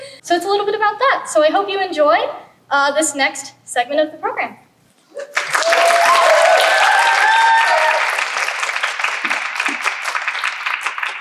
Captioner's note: applause